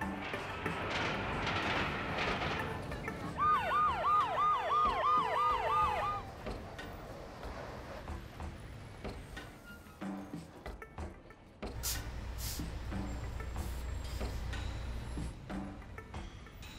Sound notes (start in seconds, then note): 0.1 cars honking, train noises; 3.3 ambulance siren